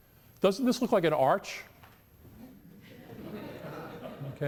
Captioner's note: audience murmurs and laughs